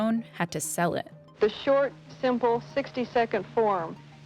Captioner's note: soundbite of archived recording